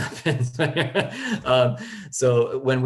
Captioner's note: laughter